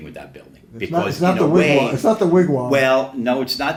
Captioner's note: laughs